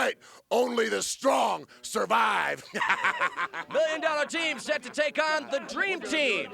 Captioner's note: laugh